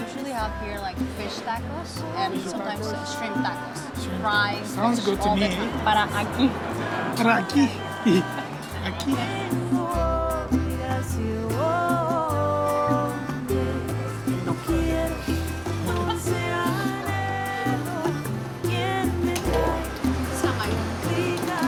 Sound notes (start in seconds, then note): 8.1 both speak spanish